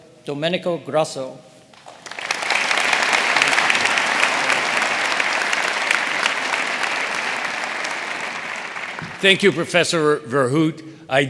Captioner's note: applause